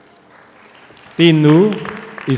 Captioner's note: audience applauds